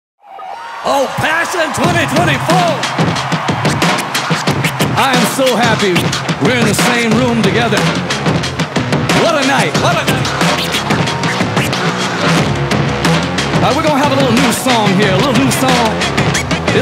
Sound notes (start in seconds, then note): 0.2 audience cheering; 9.5 echo